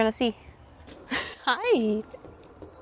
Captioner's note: laughs